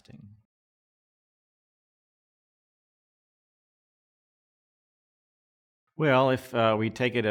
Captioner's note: silence